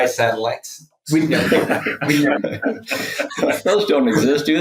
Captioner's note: people laugh